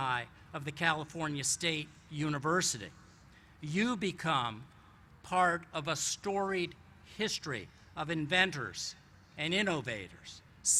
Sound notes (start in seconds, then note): none